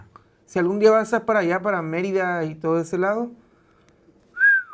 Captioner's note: whistles in Spanish